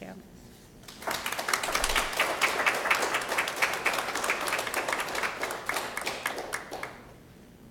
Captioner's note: applause